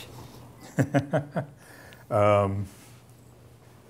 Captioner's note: laughs